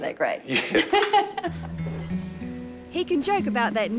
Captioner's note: laughter